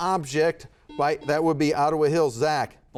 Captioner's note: buzzer buzzes